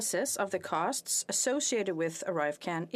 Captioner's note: speaking French